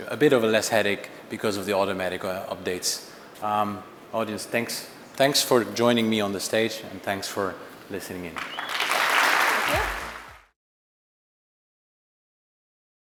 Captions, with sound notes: A bit of a less headache because of the automatic updates. Audience, thanks. Thanks for joining me on the stage and thanks for listening in. (audience applauds)